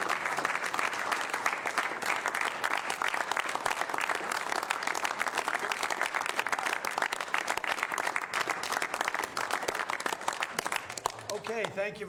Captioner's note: applause